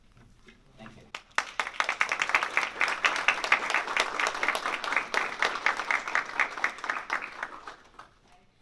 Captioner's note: applause